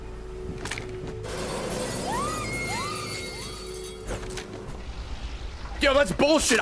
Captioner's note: screams